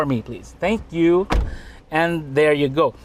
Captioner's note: door closes